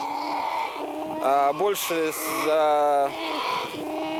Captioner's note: bears cry loudly